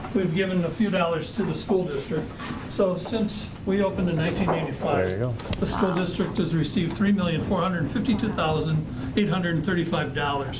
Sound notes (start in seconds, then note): none